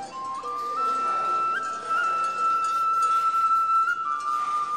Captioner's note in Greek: ήχοι από κουδούνια ζώων